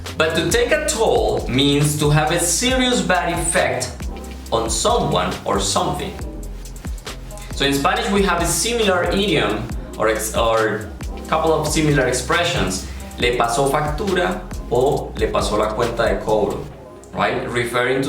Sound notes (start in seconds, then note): 16.7 Spanish